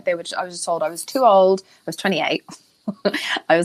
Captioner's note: Jameela laughing